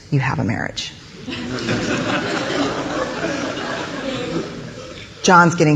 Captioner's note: audience laughing